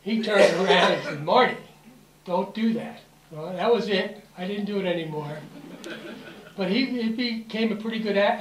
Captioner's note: laughter